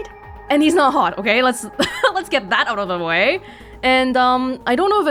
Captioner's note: chuckles